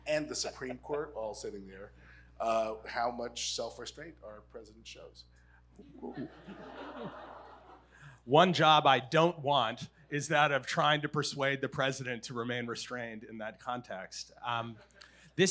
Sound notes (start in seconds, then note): 6.1 audience laughs